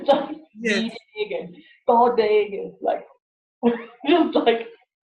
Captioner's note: laughs